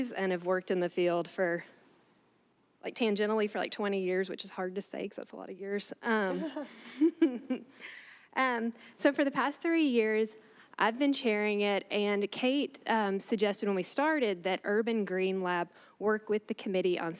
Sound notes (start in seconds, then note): 6.3 chuckling; 6.4 others laughing